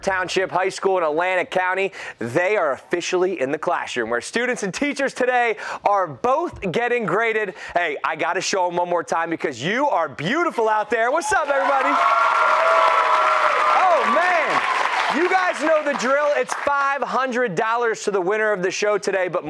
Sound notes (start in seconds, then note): 11.3 applause